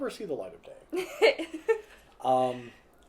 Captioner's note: laughter